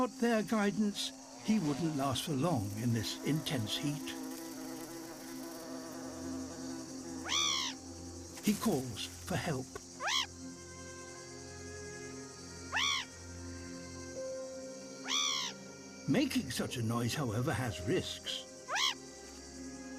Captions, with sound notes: Without their guidance, he wouldn't last for long in this intense heat. (CHIRPS) He calls for help. (CHIRPS) (LONG CHIRP) Making such a noise, however, has risks. (CHIRPS)